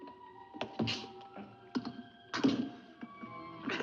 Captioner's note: jimmying coffin